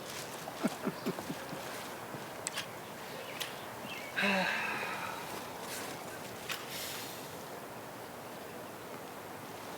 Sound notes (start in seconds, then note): 0.6 chuckles; 2.7 birds chirping; 4.1 sighs